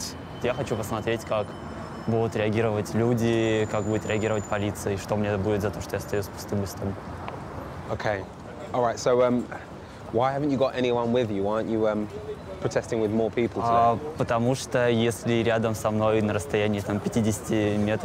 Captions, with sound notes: (speaking in foreign language) Okay, all right. So why haven't you got anyone with you? Why aren't you protesting with more people? (speaking in foreign language)